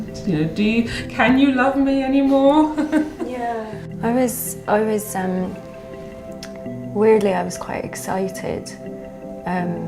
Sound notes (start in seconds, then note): 2.7 laughs